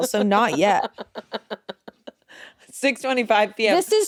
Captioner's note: laughing